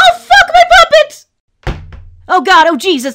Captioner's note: slam